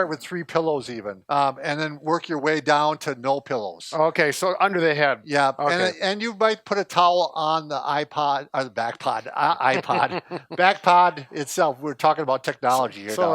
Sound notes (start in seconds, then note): 9.3 laughing